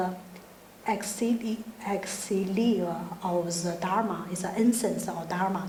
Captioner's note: speaking in foreign language